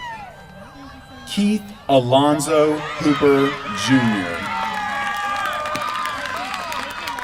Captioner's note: applause